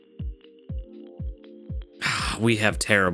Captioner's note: sighs